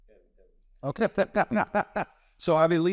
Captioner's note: laughs